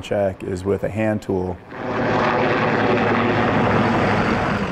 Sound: helicopter whirring

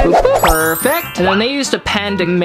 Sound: bell rings

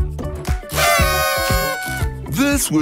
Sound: horns blowing

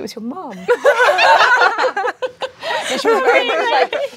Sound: laughing

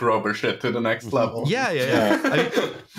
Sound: laughter

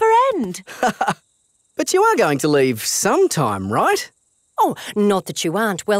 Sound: laughs

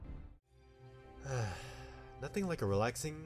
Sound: sigh

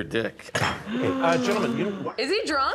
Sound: reviewer gasping

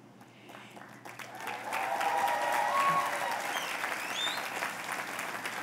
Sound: cheers and applause

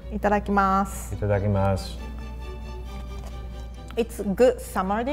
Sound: both speak in foreign language

